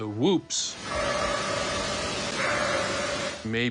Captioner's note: eerie barking